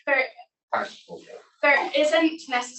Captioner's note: attendee speaking softly